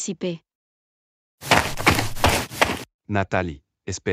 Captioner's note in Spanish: FX - Footsteps - On Multiple Dirt - Run